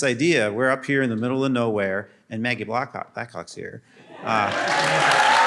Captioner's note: applause